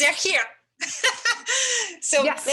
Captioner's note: laughs